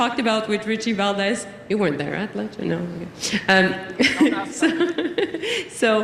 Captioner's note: laughter